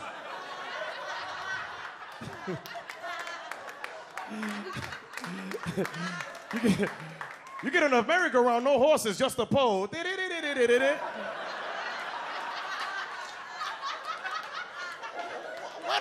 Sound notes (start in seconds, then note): 0.0 audience laughs; 10.0 imitates merry-go-round music; 10.6 audience laughs